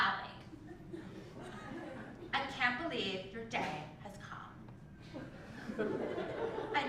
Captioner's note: laugh